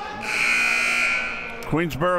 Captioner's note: buzzer ringing